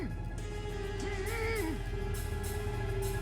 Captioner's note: muffled moaning